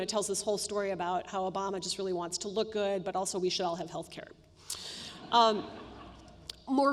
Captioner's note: laughter